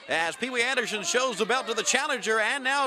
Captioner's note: crowd chatter